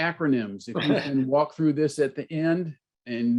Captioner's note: laughter